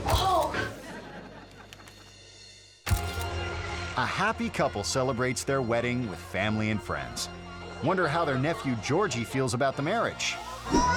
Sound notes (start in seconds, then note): 0.5 audience chuckling; 2.8 camera snapping; 3.0 organ music; 7.3 organ music